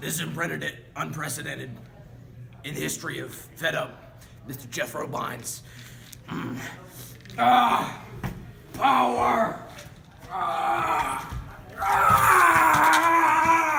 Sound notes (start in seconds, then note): 5.2 incoherent grunting